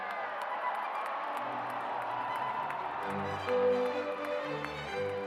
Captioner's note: cheers and applause